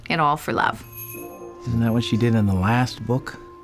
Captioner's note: doorbell jingles